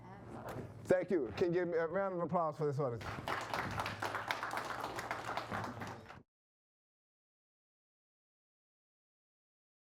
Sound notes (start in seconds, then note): 3.0 participants applauding